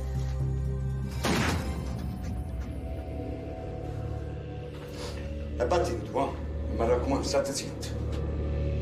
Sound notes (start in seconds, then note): 1.2 gun blasts; 5.5 speaking in Italian